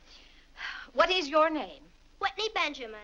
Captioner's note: sighs